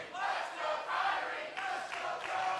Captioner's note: fans chanting